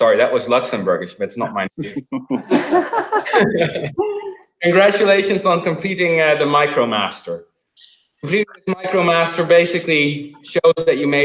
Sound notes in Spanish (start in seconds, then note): 1.8 Risas